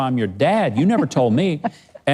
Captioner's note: laughing